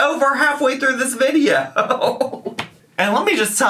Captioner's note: laughs